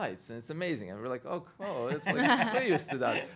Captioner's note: laughing